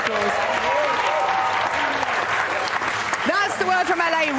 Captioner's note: big round of applause